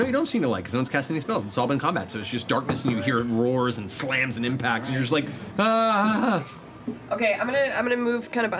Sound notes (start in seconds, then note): 3.7 worried noise